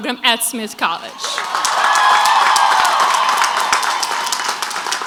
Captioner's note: crowd applauds